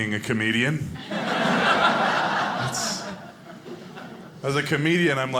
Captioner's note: audience laughing